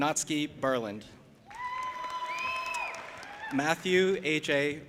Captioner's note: audience applauding and cheering